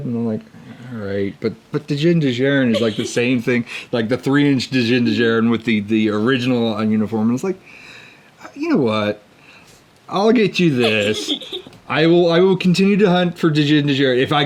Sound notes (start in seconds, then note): 10.8 laughs